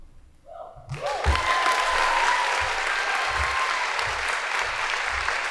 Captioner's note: audience applauding